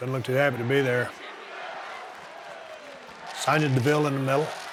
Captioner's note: audience cheering